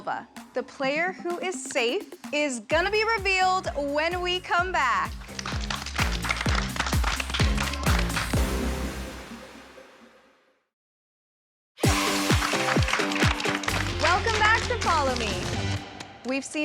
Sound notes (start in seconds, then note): 2.3 applause; 8.2 applause